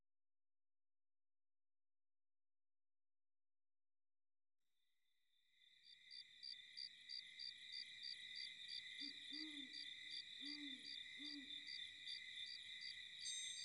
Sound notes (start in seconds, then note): 5.5 crickets chirping; 10.3 owl hooting